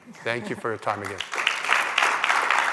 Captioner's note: applause